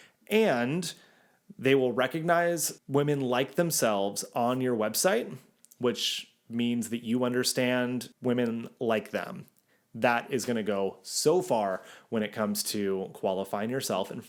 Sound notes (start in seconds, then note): none